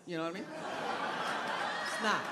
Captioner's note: crowd laughing